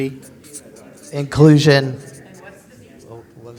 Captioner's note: pat